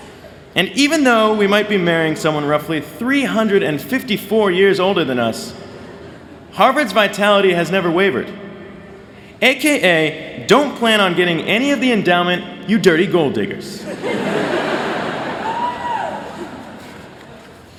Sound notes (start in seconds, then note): 13.8 laughter